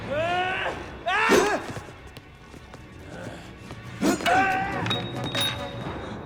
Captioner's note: Gammon yells; ax whooshes